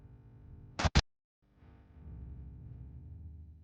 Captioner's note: static crackles